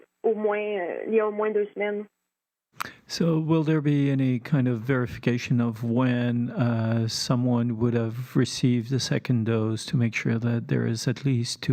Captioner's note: speaking French